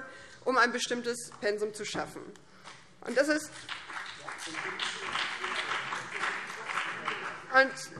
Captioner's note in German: Beifall BÜNDNIS 90/DIE GRÜNEN